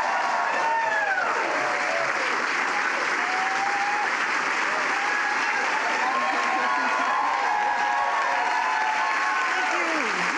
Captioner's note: applause